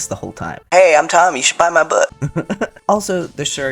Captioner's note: laughter